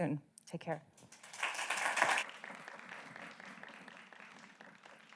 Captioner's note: audience applauding